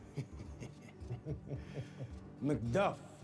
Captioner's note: chuckling